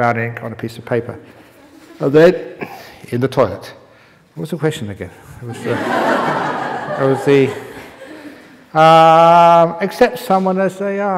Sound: laughter

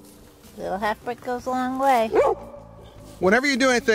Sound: dog barks

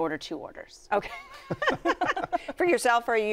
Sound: laughter

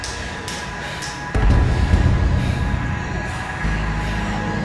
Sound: flashlight powers on

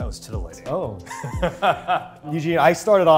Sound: Eugene laughs

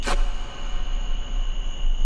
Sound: loud duct tape rip

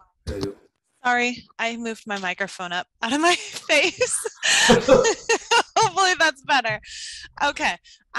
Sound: laugh

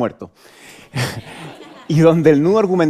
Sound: laughter

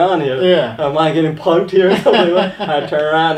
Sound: laughing

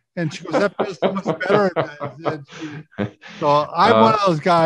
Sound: laughing

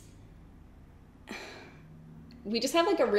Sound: sighs

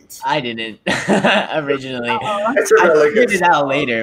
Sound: chuckles

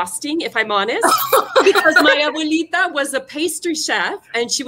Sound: speaking foreign language

